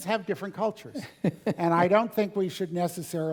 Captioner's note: laugh